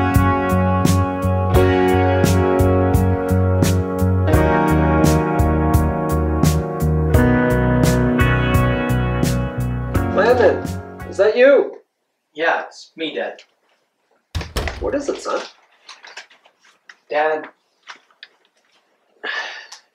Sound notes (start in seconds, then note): 7.2 music fades out; 14.3 sound of door closing